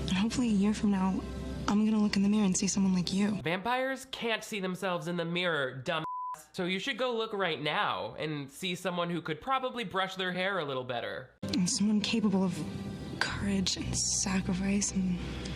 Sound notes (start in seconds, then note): 6.0 beep